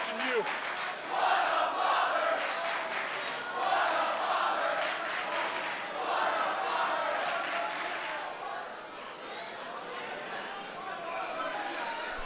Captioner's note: crowd cheering